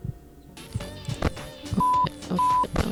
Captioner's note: radio turns on